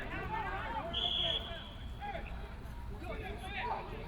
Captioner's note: whistle